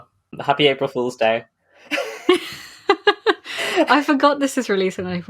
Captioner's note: laughs